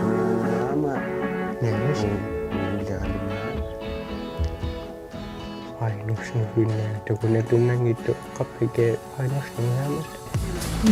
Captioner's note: speaking alternate language